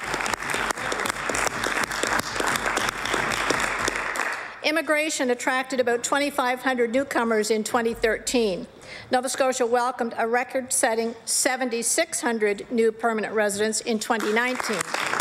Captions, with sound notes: 977,000 SCOTIANS. THE FASTEST POPULATION GROWTHCLOSE TO HALF CENTURY. [APPLAUSE] >> IMMIGRATION ATTRACTED 2500 NEWCOMERS IN 2013. NOVA SCOTIA